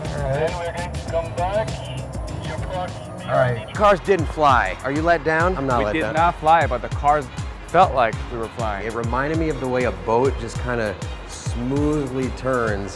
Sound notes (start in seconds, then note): 0.9 man Through Radio